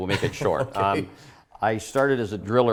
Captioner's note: laughs